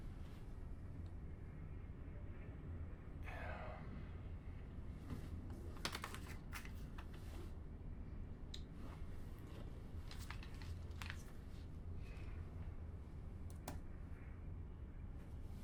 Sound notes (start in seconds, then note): 3.2 guidance Officer sighs